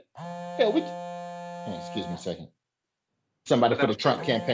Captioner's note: phone vibrating